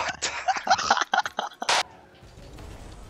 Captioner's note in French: Rires